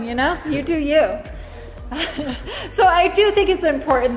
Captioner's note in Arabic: كلاهما يضحك